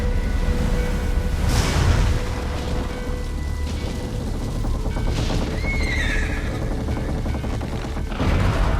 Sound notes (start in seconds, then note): 5.6 horse neighing